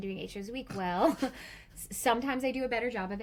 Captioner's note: chortles